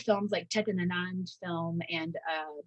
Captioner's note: speaking in Hindi